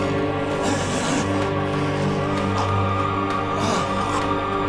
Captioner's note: Jonathan choking